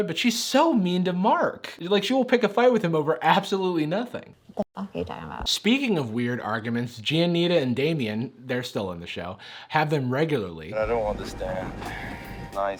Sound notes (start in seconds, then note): none